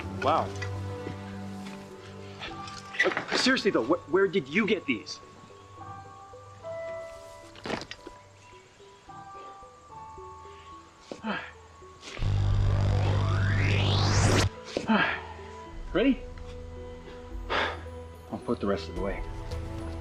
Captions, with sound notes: - Wow. Seriously, though, where did you get these? (electronic whirring) - Ready? On foot the rest of the way.